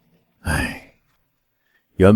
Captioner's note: sigh